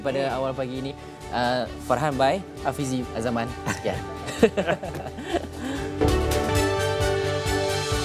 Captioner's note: laugh; background music